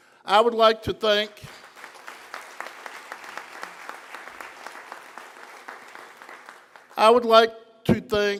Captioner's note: applause